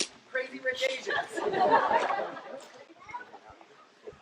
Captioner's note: laughter